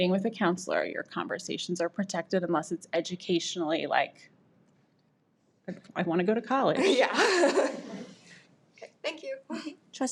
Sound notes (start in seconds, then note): 6.9 laughing